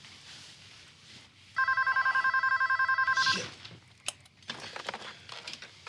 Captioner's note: phone rings